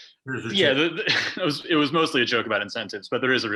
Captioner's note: chuckle